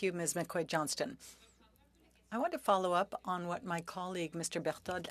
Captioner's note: speaking French